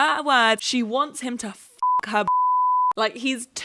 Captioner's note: beep